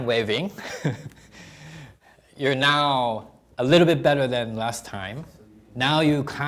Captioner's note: chuckling